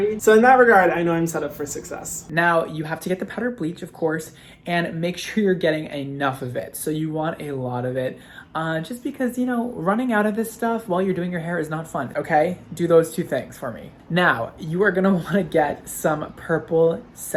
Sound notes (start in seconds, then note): none